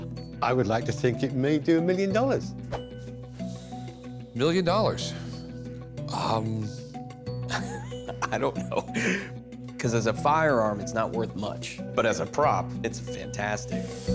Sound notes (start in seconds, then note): 7.4 chuckles